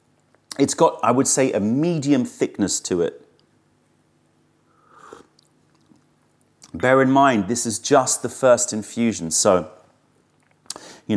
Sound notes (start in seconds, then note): 4.7 sips tea